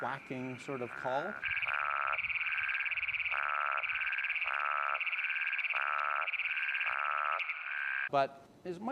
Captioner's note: toad call